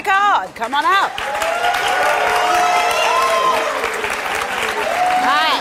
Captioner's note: audience applauds